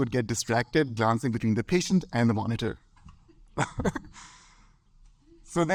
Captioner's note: laughs